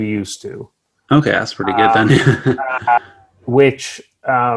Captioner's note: chuckles